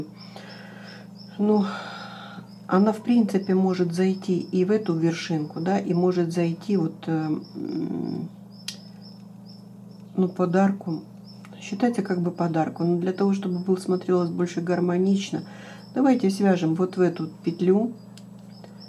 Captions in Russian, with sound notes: Ну, [вздыхает] она, в принципе, может зайти и в эту вершинку, да, и может зайти вот, ну, подарку. Считайте, как бы подарку, но для того, чтобы был смотрелось больше гармонично, давайте свяжем вот в эту петлю